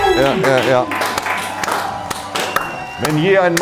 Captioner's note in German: Applaus, Jubel